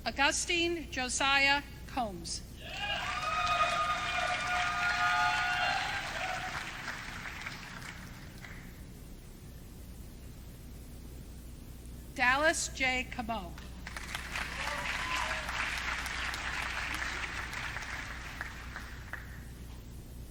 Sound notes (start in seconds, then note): 2.6 audience cheering